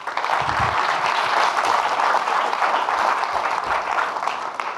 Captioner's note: audience clapping